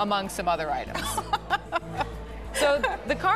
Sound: laughing

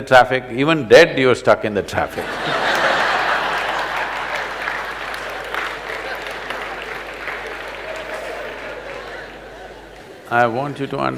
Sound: laughter/Applause

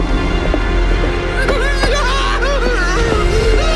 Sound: sobbing

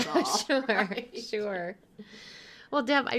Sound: laughing

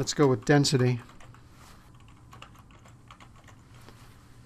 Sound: typing

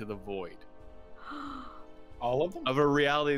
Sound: gasp

